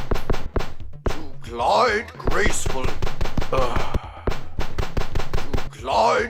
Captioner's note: sighing